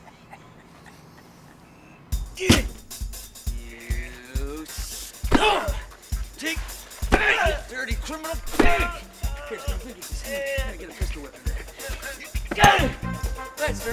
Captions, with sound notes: (Sterns laughs) (Hines grunts) (intense music) You stinkin' dirty criminal pig! Here, I'm gonna need this. I'm gonna get a pistol whip in there. (grunts)